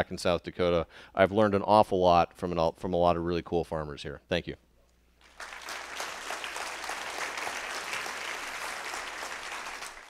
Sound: applause

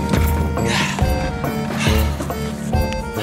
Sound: panting

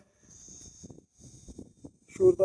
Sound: zzzzzzzzzzzzzzzııııııııııı we zooming sound

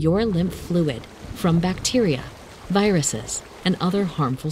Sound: liquid whooshes

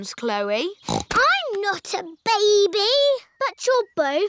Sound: snorts

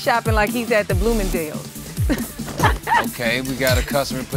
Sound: laugh

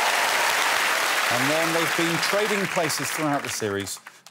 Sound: cheers and applause

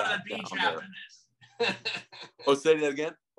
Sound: laughs

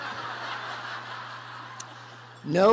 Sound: laughter

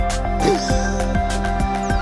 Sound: upbeat music; laughs

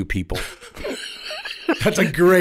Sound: co-hosts laughing

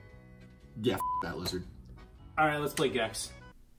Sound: beep

